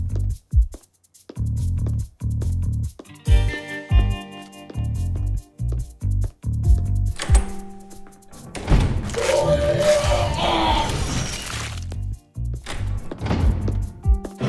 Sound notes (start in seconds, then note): 9.0 machines whirring; 9.0 yelling